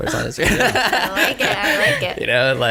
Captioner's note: laughter